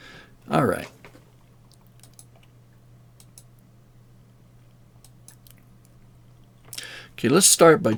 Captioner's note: mouse clicking